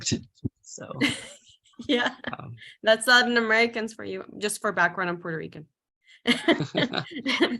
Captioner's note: laughs